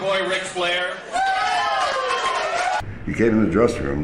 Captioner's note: crowd screaming